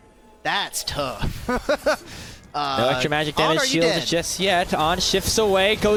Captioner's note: laughter